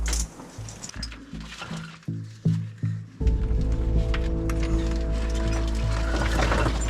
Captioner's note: rocks sliding; shuffling